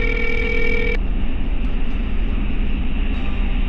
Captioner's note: phone ringing